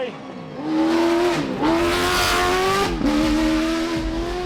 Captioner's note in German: Motor brüllt